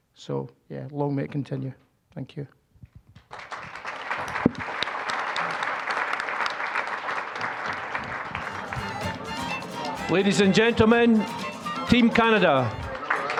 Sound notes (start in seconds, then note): 3.2 applause; 8.4 upbeat music